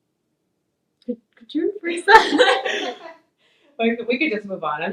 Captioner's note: laughs